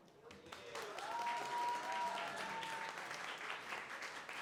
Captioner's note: cheering, applause